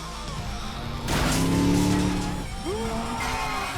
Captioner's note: gate crashing